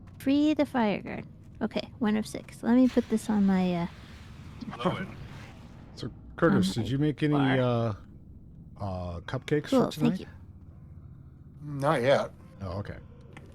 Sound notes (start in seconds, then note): none